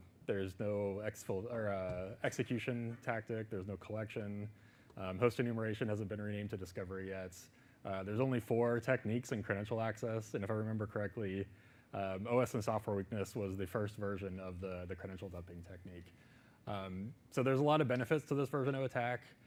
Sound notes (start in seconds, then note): none